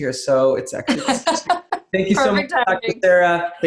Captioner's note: laughs